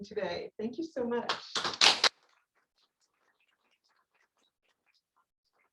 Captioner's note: applause